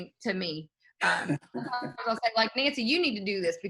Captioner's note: laughing